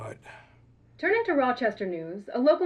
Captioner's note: newscaster